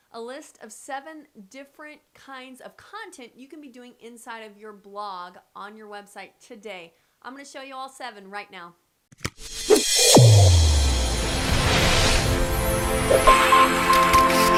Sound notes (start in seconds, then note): 9.4 laser whooshing; 9.8 ethereal synthesizer music